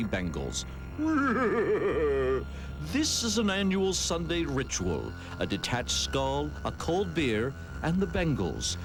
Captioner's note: eerie laugh